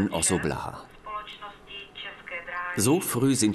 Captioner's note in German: Lautsprecherdurchsage auf Tschechisch